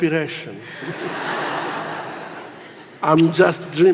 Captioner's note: audience laughs